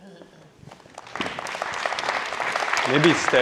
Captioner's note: audience applauding